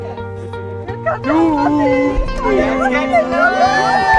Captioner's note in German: Alle jubeln